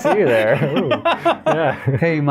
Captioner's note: laughter